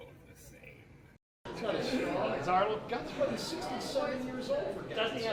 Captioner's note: indistinct chatter